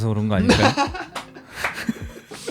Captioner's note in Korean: 웃음